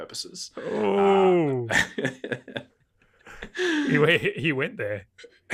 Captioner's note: laughing